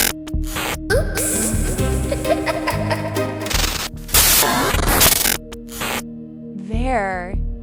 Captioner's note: laughter